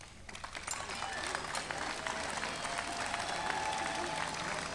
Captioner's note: adience applauding